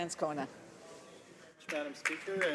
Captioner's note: some Applause